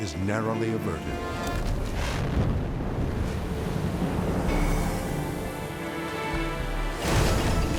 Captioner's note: explosion rumbles; soft orchestral music; dramatic orchestral music